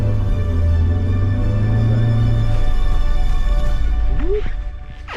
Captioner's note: car engine rumbling